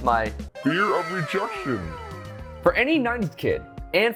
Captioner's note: wow cheering